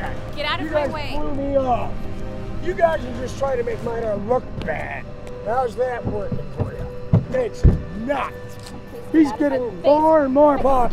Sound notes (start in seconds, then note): 7.1 slams door